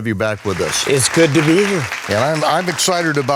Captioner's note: applause